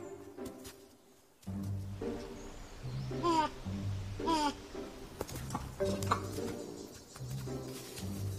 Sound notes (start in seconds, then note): 1.2 lemur moans; 3.8 playful music